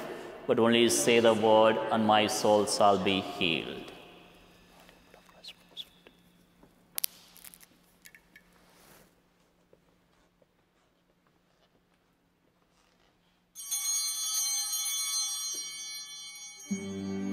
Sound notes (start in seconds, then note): 13.6 bell ringing